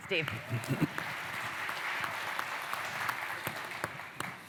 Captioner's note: applause